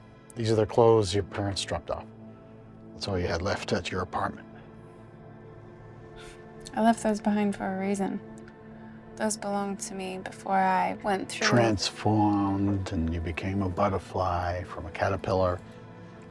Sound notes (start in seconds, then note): 5.6 scoffs